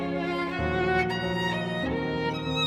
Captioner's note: none